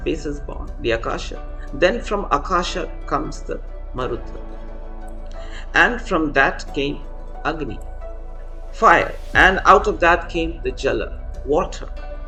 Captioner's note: fire